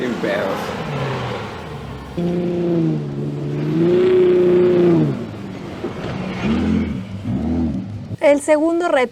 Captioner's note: engine revving